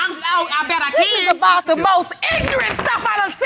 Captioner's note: gavel clatters